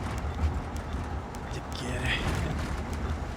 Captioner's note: spanish